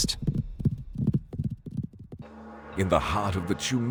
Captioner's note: horses trolloping